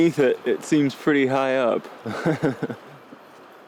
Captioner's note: laughing